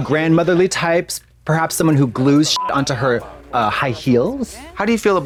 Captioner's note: beep